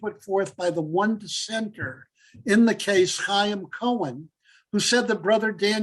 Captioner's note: Hebrew